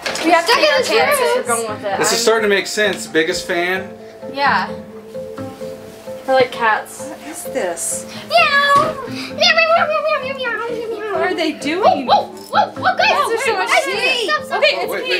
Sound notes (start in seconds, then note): 8.3 meows